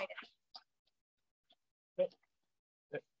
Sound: silence

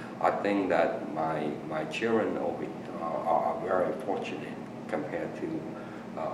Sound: none

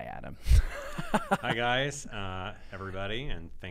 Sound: laughs

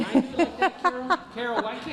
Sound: laughing

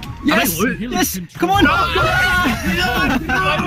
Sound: shouting; laughter

